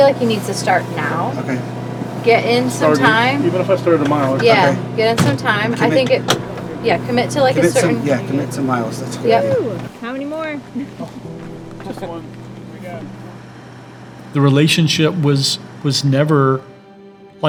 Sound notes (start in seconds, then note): 9.3 cheers; 14.7 gentle music